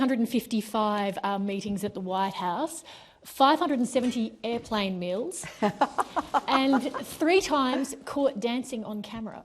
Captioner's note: laughter